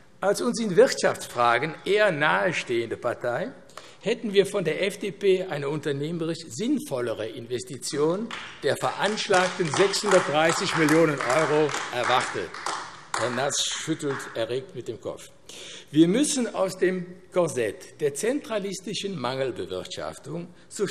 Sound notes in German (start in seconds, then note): 12.7 Beifall AfD